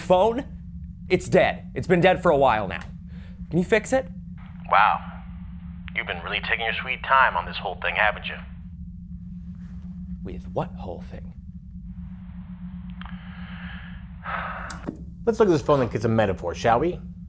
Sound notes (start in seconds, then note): 12.1 click